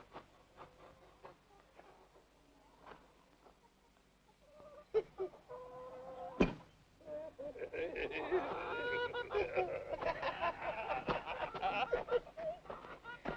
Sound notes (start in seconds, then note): 4.7 Emmett chuckles; 7.3 both laughing